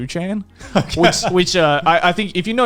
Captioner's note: laughing